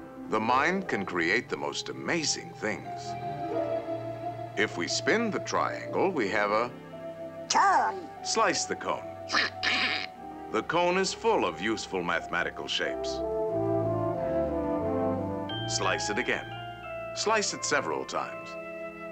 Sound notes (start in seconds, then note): 9.6 donald chuckling